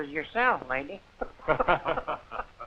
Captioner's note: chuckling